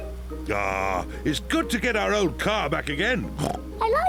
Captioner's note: oinks